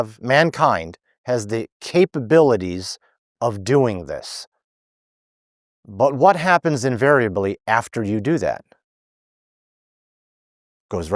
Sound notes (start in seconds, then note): none